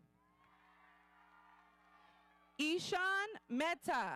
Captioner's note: audience cheering